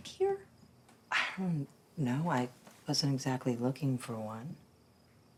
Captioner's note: sighs